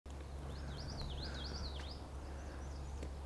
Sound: bird tweeting

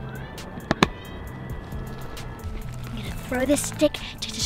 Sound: lid snaps

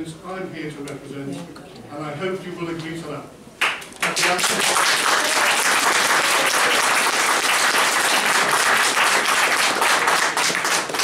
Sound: applause

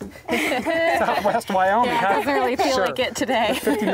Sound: laughing

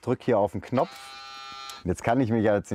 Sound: whirring

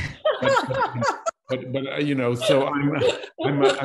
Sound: laughter

